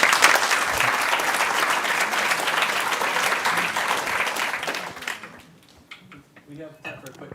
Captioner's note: applause